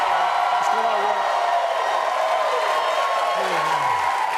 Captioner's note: cheering, applause